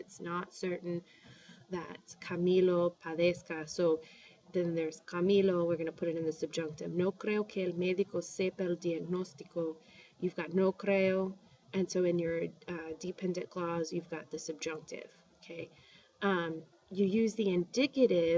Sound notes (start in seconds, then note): 4.2 spanish; 6.5 spanish; 11.2 speaking spanish; 13.7 spanish